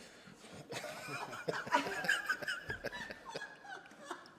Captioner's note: laughter